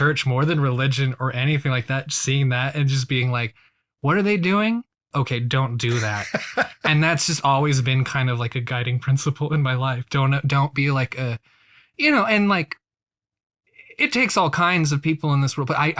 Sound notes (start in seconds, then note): 5.8 laughs